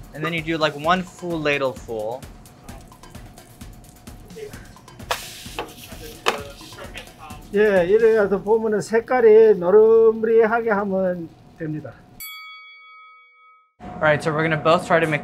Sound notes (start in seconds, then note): 2.5 upbeat music continues; 7.6 speaking in Korean; 12.2 bell ringing